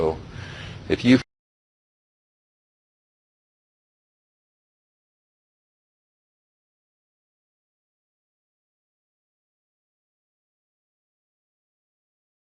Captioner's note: silence